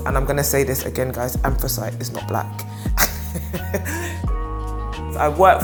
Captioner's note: laughing